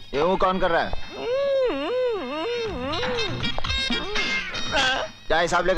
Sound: grunts

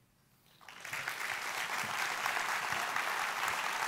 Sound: applause

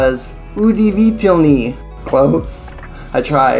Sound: speaks Russian

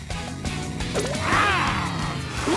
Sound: roars

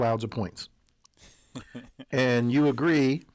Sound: laugh

